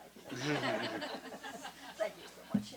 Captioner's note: laughter